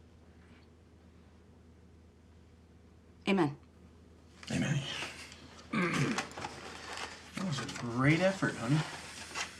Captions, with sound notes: Amen. - Amen. (clears throat) - That was a great effort, honey.